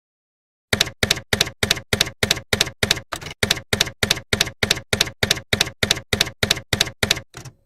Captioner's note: typewriter keys clacking